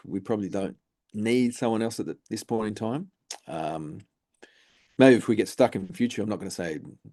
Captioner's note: lip smack